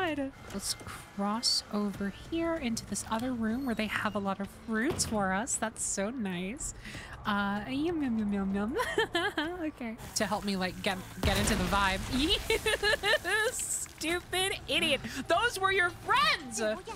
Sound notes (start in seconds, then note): 8.7 laughter; 12.3 laughing